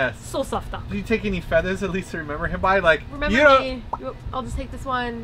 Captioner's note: pop